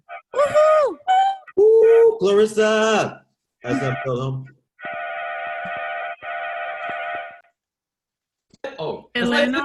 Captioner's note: chearing